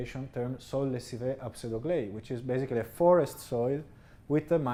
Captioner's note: speaking french